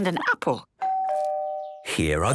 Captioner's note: doorbell rings